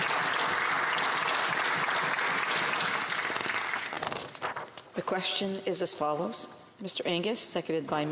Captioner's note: applause